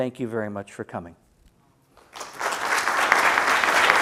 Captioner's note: applause